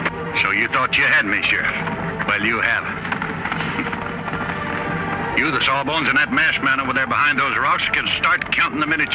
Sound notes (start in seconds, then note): 3.5 laughs